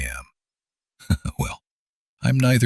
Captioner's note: chuckles